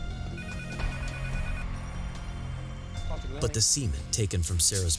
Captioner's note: phone ringing